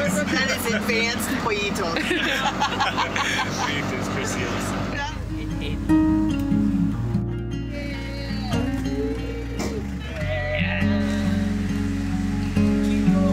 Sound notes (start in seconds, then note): 0.0 foreign language; 1.8 all laughing; 8.1 car engine roaring